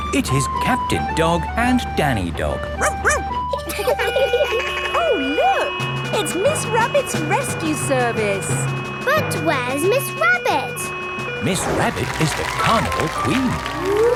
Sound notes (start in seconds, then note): 2.8 barks; 2.8 laughing; 3.9 sirens sounding